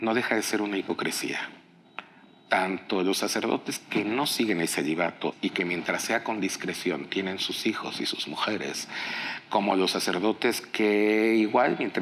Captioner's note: speaking in Spanish